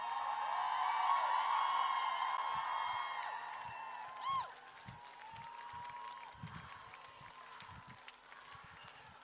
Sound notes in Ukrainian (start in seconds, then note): 0.0 Оплески